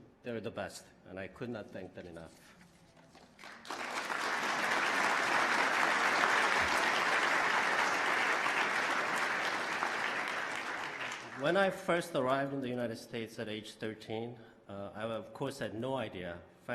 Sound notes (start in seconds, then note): 6.2 applause